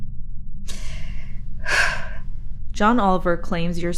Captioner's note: sighing